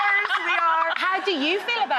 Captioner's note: laughing